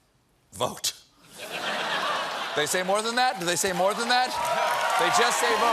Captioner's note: laughter